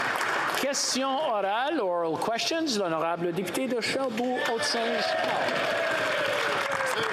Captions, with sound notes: GENERATIONS [ Applause ]